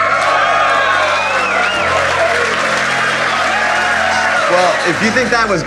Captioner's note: applause